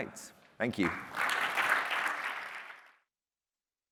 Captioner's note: applause